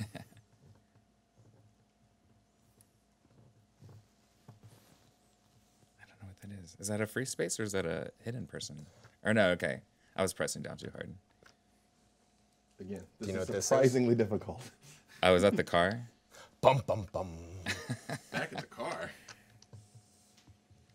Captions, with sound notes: (man chuckling) - I don't know what that is. Is that a free space, or is that a hidden person? Or no, okay, I was pressing down too hard. - Again, this is surprisingly difficult. - Do you know what this is? - Oh, is that the car? - Bum, bum, bum. (man laughing) - Back at the car?